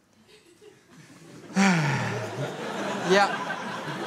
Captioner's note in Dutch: Opluchtend geluid; Gelach